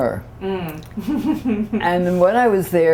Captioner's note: laughter